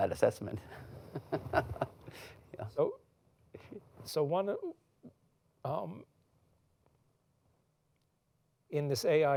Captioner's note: laughs